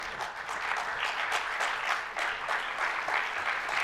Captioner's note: applause